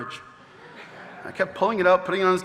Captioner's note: audience laughing